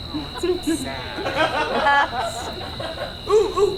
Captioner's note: audience laughs